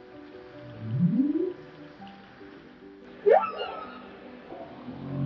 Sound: whales singing

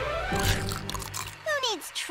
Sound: celery crunching

